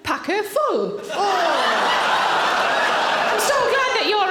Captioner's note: audience laughing